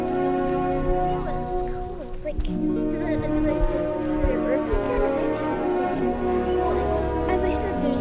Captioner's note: children approach talking